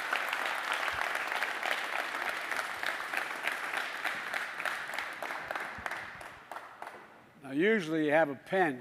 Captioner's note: applause